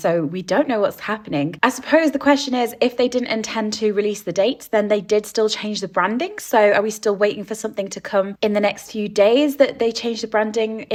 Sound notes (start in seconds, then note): none